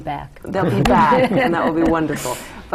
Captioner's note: laughter